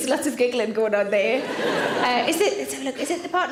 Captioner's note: audience laughs